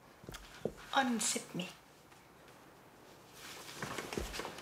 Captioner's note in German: auf Englisch